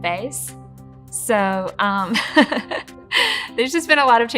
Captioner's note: laughing